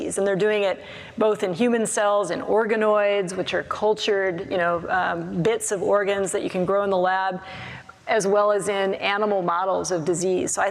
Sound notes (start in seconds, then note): none